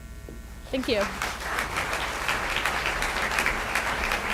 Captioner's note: applause